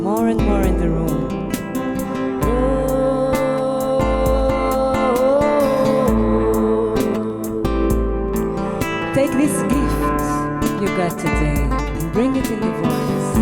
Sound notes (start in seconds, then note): none